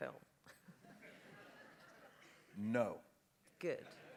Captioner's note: laughter